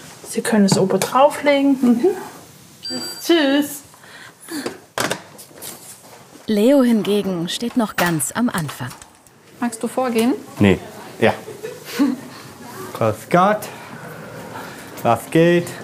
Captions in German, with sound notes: Sie können es obendrauf legen. - Mhm. (Piepsen) Tschüss! Leo hingegen steht noch ganz am Anfang. Magst du vorgehen? - Nee. Ja. (Sie kichert.) Grüß Gott. Was geht?